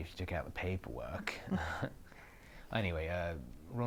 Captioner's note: Aquila laughs